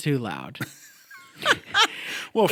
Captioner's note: chuckle